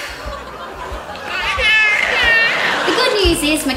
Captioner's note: baby Giggling